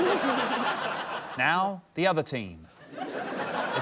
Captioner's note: laughter; laughter